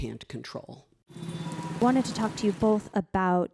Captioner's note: busy street sounds